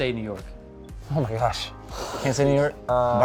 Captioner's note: sighing